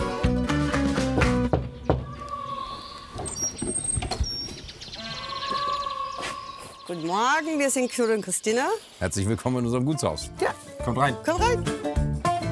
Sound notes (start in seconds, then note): 3.6 birds chirping